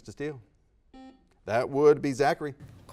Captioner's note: beeps